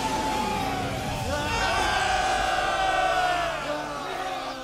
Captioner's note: triumphant cheering